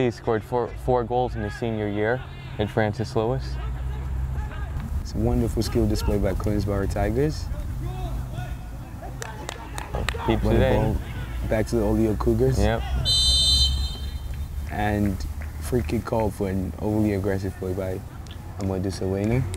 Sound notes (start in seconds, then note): 13.0 whistle blows